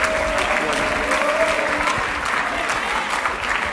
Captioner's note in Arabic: تصفيق